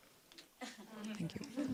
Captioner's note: laughter